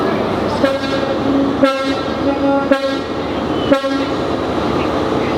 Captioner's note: train Horn Honking